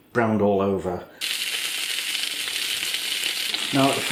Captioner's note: sizzlin